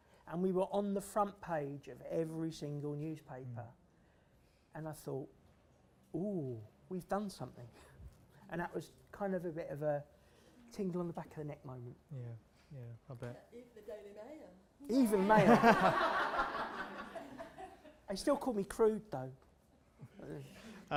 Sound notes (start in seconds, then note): 15.2 laughter